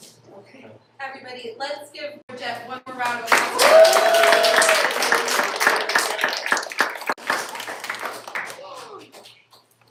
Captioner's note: applause